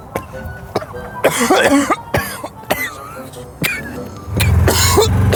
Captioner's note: continues Coughing